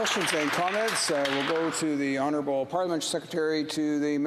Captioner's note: applause